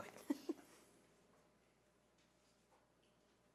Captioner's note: laughing